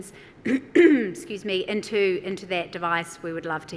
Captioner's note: clears throat